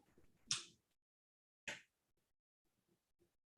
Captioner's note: pen taps